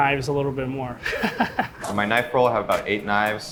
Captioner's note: laughing